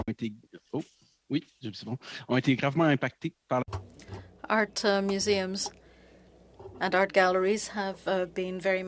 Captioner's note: speaking French